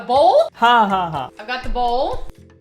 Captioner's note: speaking in Hindi